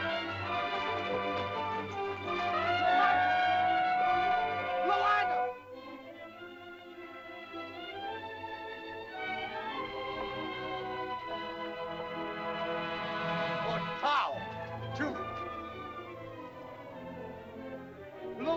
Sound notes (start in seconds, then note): 0.2 dramatic music; 2.7 shell toots; 6.4 dramatic music; 13.7 speaking in caveman language; 16.4 suspenseful music